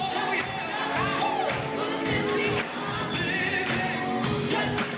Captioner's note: applause; singing; applause